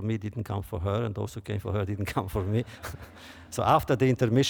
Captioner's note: laughter